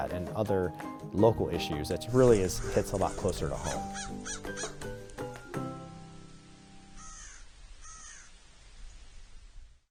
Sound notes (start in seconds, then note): 3.9 crow cawing; 3.9 gentle music